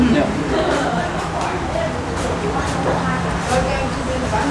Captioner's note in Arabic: الثرثرة الخلفية